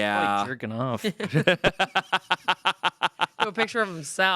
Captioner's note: everyone laughs